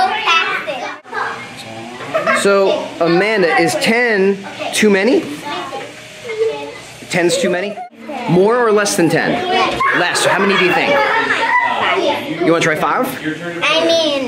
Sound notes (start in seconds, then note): 1.9 giggling; 11.5 children laughing and speaking indistinctly